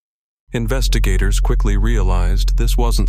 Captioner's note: low fq noise